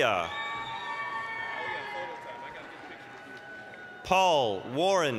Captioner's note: applause, cheering